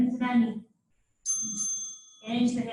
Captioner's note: ding ding